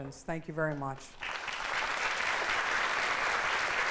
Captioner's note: applause